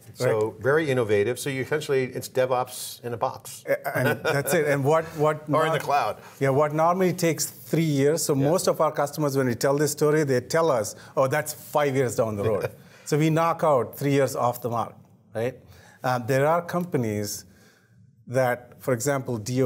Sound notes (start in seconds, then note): 3.7 laughing